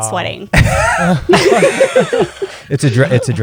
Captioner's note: laughter